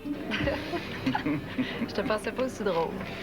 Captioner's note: Rires